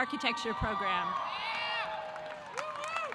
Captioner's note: audience cheering; audience applauding